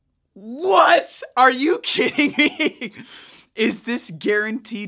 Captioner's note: laughing